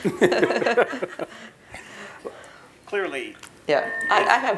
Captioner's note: laugh